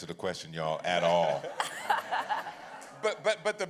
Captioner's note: laughter